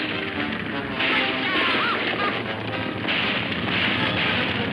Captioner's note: explosion booms; gun fires; horses whinnying